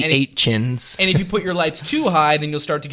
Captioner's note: laughs